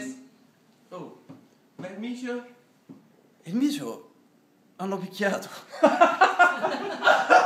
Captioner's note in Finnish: laughs